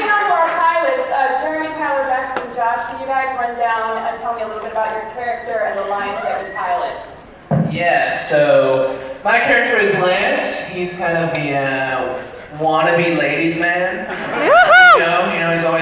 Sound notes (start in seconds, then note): 14.0 laughter